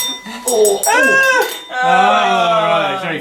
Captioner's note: clinking